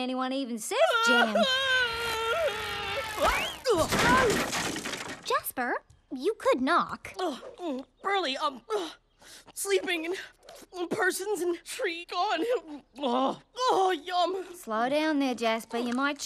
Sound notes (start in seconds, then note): 3.0 crashing; 8.6 chewing; 10.6 panting; 12.6 chewing